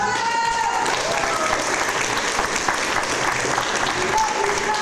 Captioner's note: audience applause